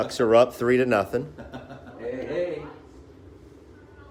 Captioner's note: laughter